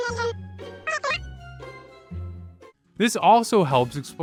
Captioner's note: high pitched voice